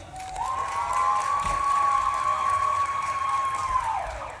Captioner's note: audience claps and cheers